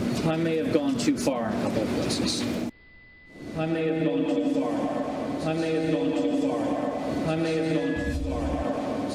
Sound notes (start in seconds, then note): 3.8 repeating, echoing